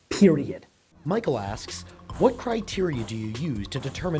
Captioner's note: voiceover